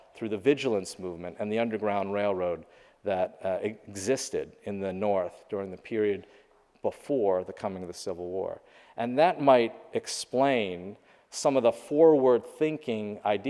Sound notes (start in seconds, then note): none